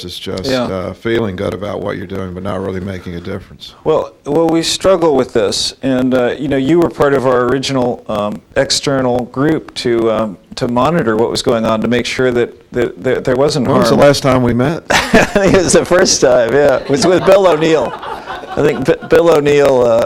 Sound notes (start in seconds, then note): 16.5 laughing